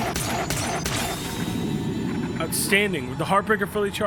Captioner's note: gun firing